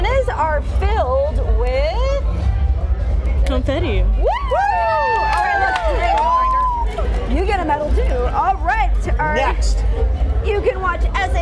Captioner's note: cheering